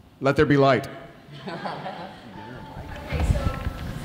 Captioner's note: audience laughing